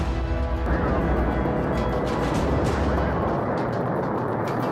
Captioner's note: shuttle engine roars